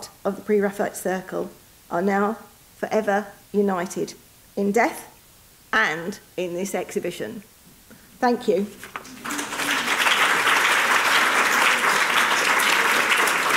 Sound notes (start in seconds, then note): 8.9 audience applauding